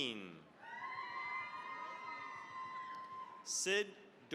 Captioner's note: cheering, applause